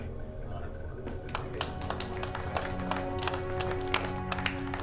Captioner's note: applause